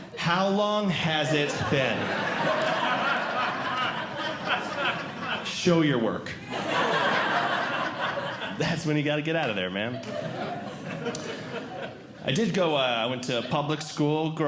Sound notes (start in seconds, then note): 6.4 audience Laughing